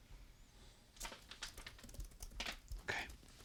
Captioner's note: envelope scrunches